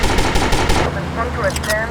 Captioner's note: gunfire